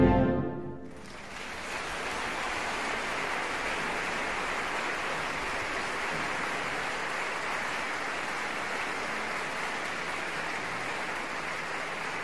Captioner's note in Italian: applauso